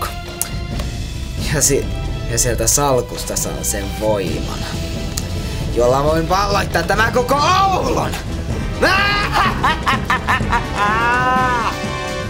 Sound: laughts

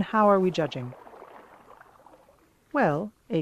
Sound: water gushes somewhere in the distance

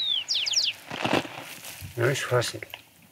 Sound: birds chirping; villager speaking in foreign language

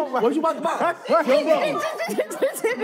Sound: laughing

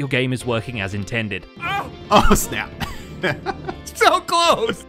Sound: laughs

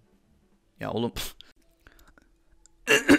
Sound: coughs intensly

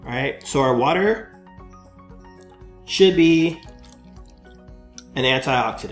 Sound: water pouring

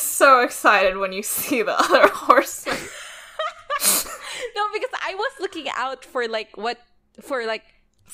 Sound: laughs; laughs

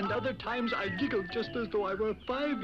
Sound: giggles

